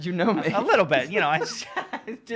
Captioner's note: laughing